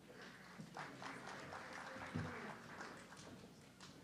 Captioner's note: audience clapping